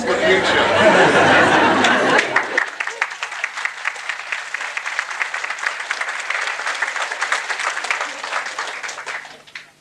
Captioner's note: laughter n claps